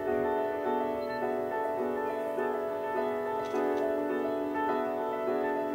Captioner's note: camera beeps and clicks